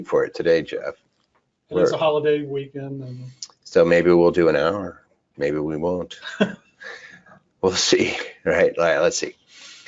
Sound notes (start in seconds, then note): 6.1 chuckles; 6.2 person laughing